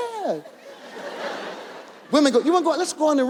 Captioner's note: audience laughs